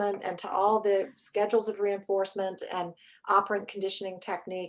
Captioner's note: none